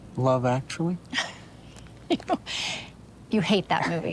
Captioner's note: Rachel laughs